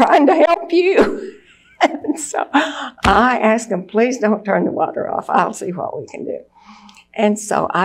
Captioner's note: laughs